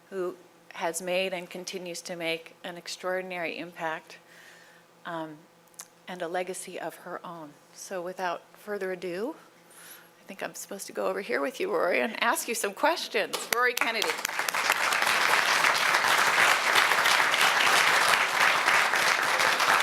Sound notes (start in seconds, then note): 13.4 applause